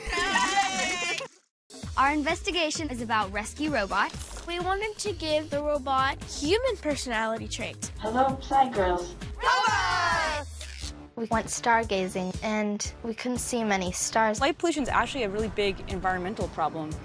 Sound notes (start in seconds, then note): 10.2 electronic male voice